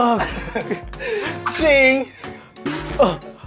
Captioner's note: schwing